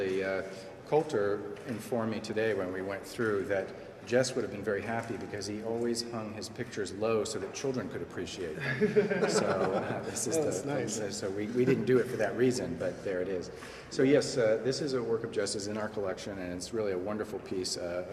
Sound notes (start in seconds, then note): 8.6 laughs